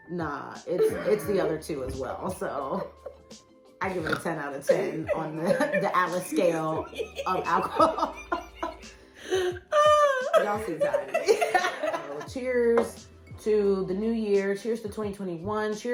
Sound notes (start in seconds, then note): 7.9 laughter